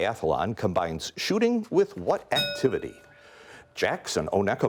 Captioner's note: bell rings